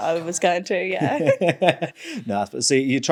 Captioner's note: laughing